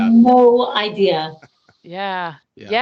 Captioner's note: laughing